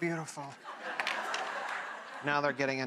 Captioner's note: audience laughing